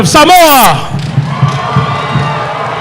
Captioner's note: applause